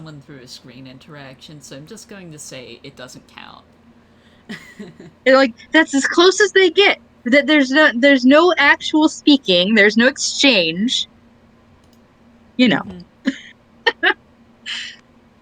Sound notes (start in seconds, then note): 8.4 laughs